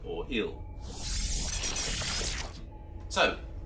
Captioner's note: electronic sounds